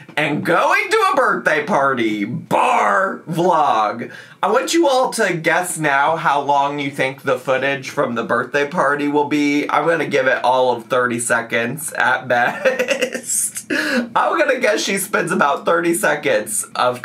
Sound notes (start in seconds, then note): 12.4 laughs